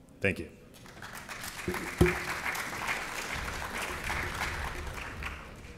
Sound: applause

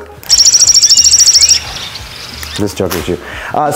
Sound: bird chirping

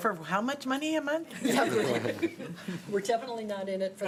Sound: laughter

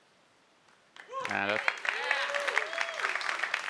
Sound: applause

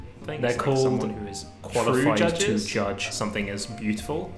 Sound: voice echoing

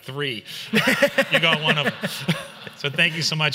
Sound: everyone laughs

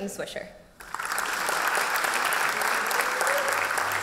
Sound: applause

